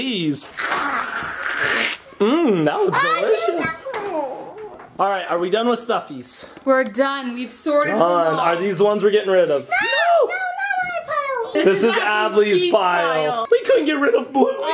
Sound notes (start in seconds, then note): 0.5 person slurping; 2.9 child exclaims; 6.8 people sigh